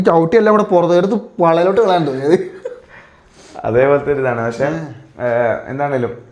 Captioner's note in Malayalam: ചീറ്റുന്നു